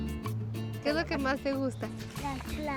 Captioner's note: speaks Spanish